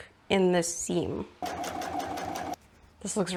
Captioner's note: sewing machine noises